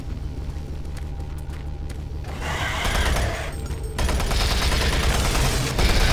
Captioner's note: gunshots